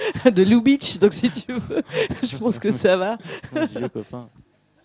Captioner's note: laughs